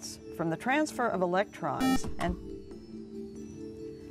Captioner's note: buzzer